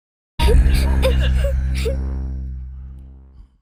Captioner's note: child crying